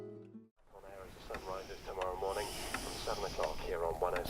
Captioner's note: radio